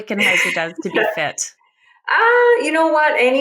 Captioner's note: laughs